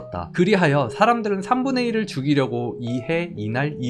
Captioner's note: voiceover